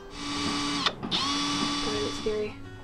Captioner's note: drill whirs